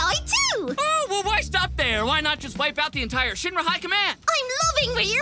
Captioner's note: sarcastically